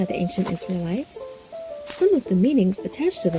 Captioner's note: wind wooshing softly; mattocks chopping